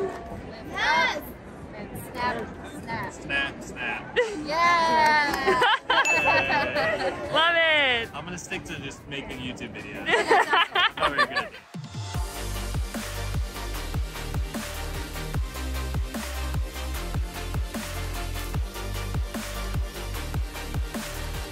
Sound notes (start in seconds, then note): 5.3 laughs; 10.0 laughs; 12.3 happy music